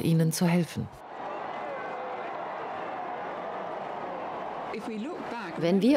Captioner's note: crowd cheering